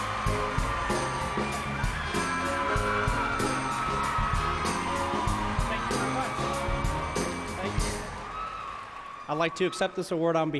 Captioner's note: cheers and applause